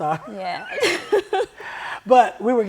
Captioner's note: laughter